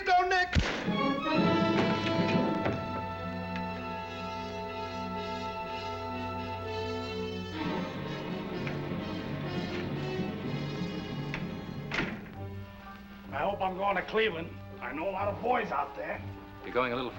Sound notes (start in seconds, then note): 0.5 gun firing; 1.9 dramatic music